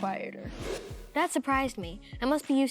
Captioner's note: air whooshing